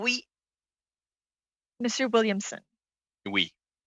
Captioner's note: speaking French